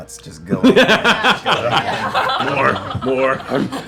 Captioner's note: laughter